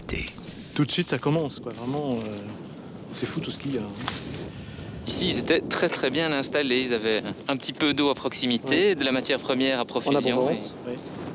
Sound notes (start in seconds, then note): 0.7 French spoken audio